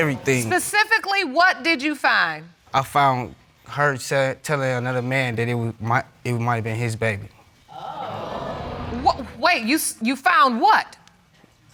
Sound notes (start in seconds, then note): 7.7 audience exclaiming